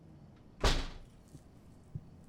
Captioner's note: door slams